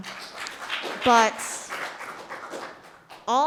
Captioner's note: audience applauding